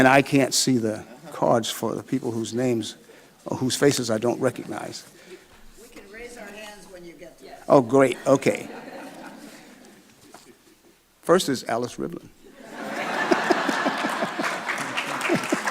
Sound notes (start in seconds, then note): 8.1 audience laughing; 12.5 laughs; 12.5 audience laughing